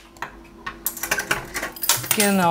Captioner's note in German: Klappern